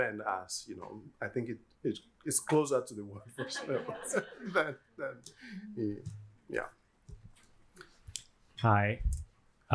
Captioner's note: yoruba